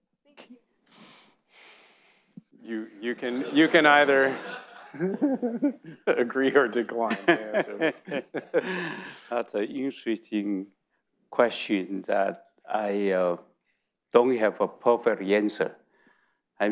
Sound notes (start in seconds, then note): 2.7 audience laughing; 5.2 laughs; 8.6 C.C. laughs